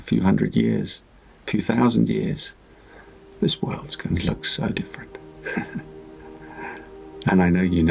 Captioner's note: chuckles